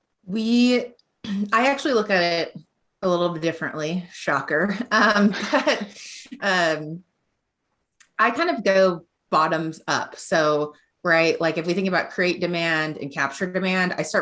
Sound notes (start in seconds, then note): 5.2 laughing